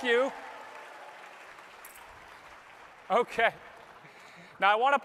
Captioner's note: applause